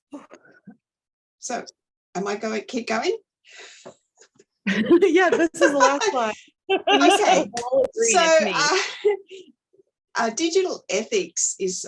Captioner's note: laughter, inaudible